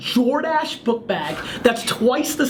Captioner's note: laughs